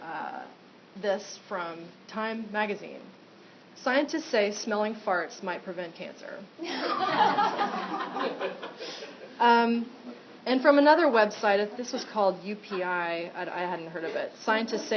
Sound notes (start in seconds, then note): 6.6 laughter